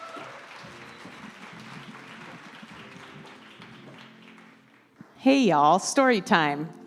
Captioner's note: applause